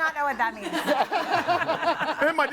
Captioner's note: group laughs